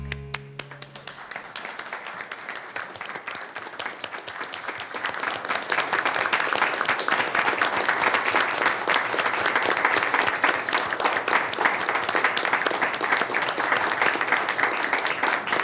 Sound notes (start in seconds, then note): 4.2 applause